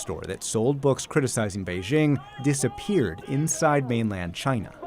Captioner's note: protesting in chinese